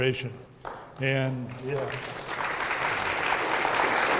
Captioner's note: audience clapping